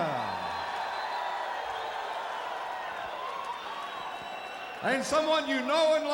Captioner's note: crowd cheering